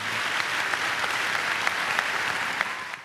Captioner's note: applause